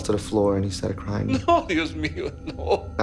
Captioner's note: speaking Spanish